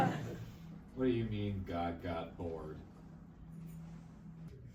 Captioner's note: audience laughs